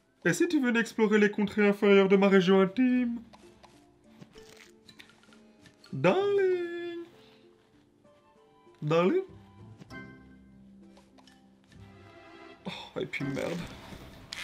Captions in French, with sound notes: Et si tu venais explorer les contrées inférieures de ma région intime? (Bruits de touches sur smartphone/musique) Darling ... Darling ? Oh, et puis merde ! ...